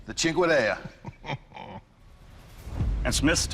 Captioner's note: laughs